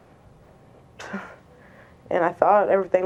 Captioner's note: exhales sharply